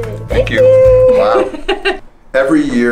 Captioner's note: laughter